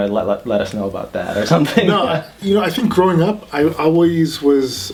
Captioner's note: laughs